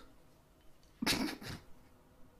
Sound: laugh

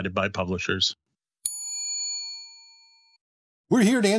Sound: bell dings

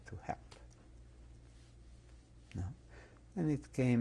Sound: pauses for 3 seconds

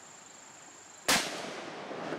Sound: gunshot

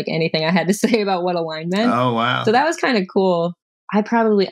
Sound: laughter

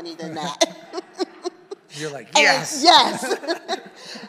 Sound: laughs

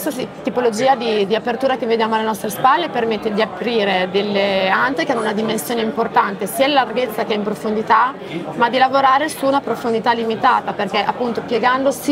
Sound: speaks Italian

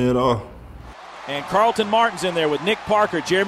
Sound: voiceover

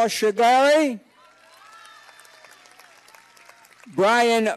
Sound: cheers and applause

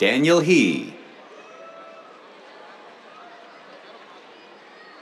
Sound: cheers

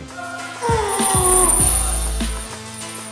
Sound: grunts with effort

